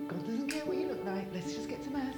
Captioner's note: light switch flicking